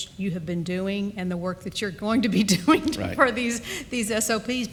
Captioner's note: chuckles